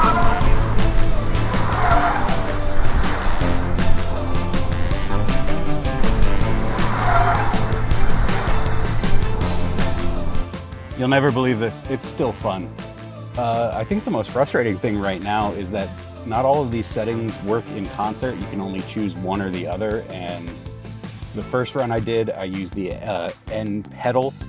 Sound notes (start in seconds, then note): 0.1 tires screech; 2.8 upbeat music; 6.8 tires screech